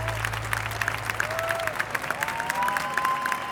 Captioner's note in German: Applaus